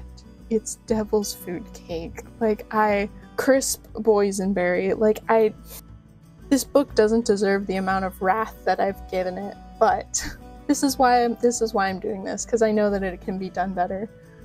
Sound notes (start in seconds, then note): 9.8 soft laughter